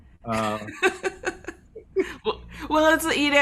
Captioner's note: laughing